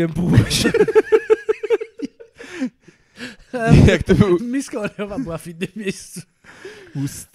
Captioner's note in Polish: śmiech